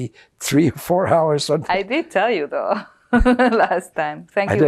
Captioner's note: laughing